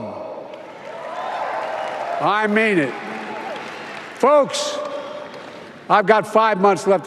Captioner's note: applause